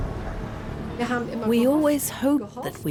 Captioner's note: speaks in foreign language